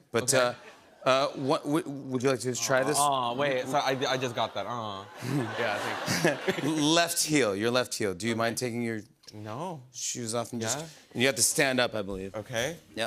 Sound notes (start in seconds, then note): 5.0 laughter